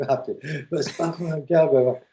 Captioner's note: laughter